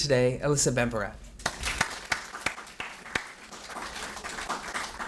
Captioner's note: audience applauds